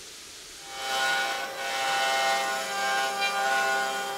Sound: router whirs

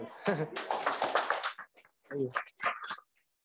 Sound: crowd applauds

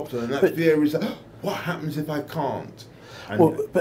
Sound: gasps

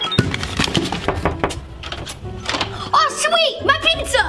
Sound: knocking on the door

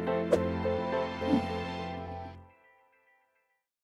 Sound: logos whooshing

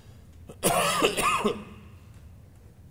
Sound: coughing

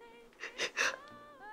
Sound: more inhales

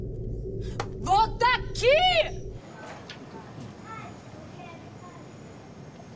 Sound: speaking in foreign language

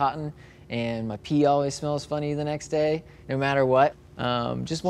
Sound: none

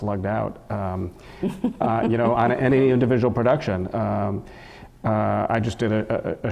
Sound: laugh

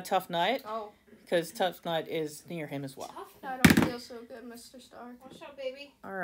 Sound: die rolling noises

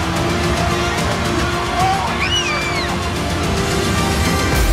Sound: family screaming and cheering

